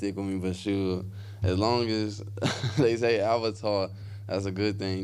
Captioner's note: laughs